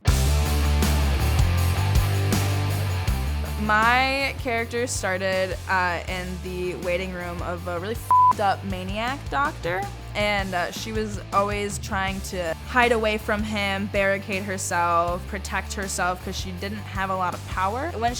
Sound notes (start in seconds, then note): 0.0 rock music; 8.0 beep